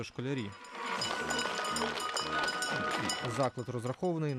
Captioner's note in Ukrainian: дзвонить у дзвінок